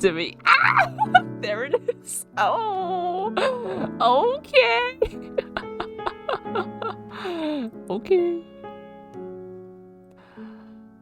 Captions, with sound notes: aaa! There it is!! [dying noises] ouuuuu, okay~~ [laughs] [breathes in] okay.